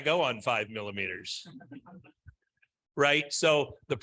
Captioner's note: all chuckling